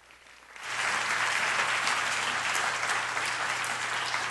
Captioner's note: applause